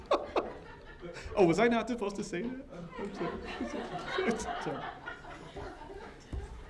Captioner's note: laughter; laughter